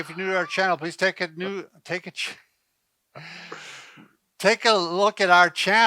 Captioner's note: both laughing